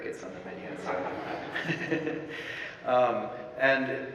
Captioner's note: audience laughing